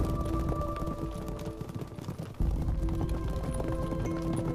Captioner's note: horse galloping